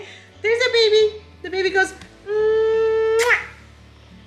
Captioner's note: kissing sound